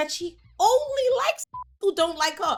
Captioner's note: beep